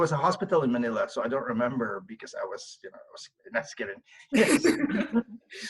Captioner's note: laughs